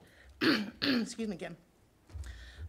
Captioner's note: clearing throat